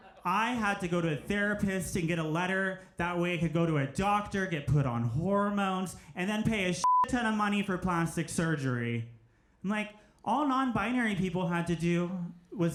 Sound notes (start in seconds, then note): 6.8 beep